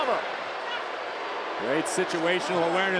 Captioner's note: crowd jeers